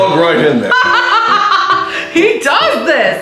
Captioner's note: she laughs hysterically